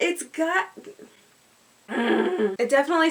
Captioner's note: groan